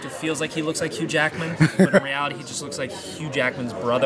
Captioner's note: laugh